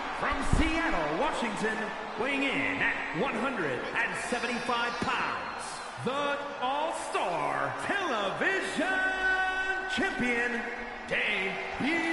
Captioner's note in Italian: Applauso